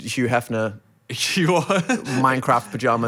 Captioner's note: laughs